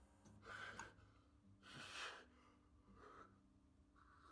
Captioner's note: breathes heavily